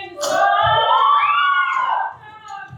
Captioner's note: cheering